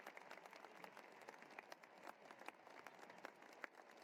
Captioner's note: applause